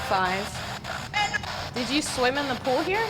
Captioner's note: spirit box voice